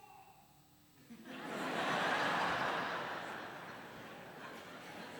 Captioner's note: laughter